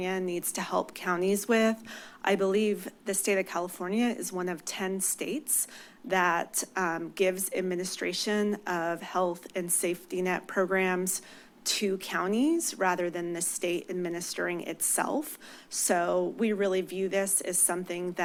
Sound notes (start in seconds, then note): none